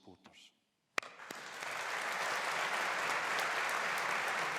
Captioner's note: applauding